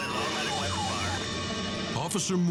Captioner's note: sirens screaming